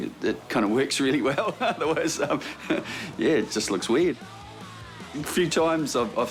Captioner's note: laughs